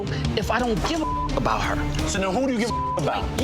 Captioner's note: beep